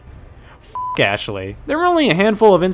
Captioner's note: beep